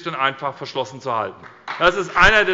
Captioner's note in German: Beifall bei der SPD